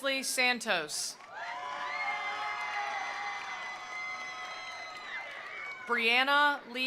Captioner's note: attendees applauding; attendees cheering